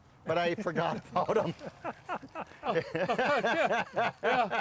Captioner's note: laughing